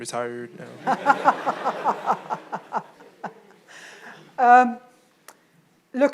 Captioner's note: audience and Jocelyn laugh